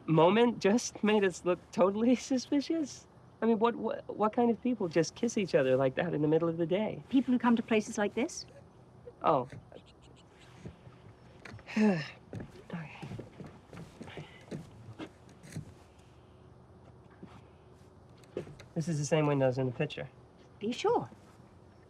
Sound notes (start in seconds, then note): 11.6 Nigel sighs